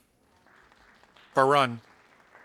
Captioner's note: audience applauding